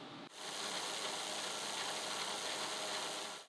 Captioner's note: drill buzzing